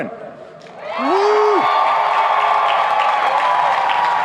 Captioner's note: applauding